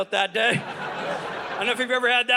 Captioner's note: audience laughing